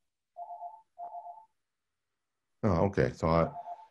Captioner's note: phone ringing